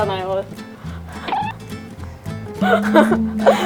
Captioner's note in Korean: 빵 터짐